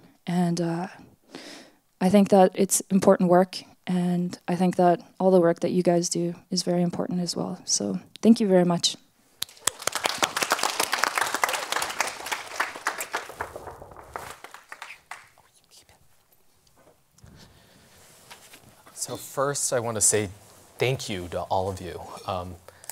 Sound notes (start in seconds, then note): 9.4 applause